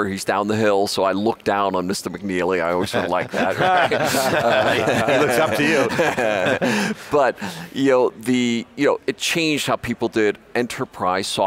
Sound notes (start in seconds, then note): 2.8 everybody laughs